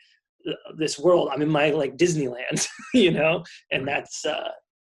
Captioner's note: laughs